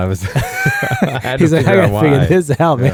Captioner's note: laughing